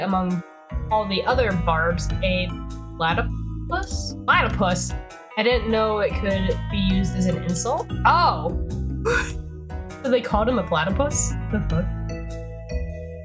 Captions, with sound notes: OH! *wheeze* So they called him a platypus? Da fuk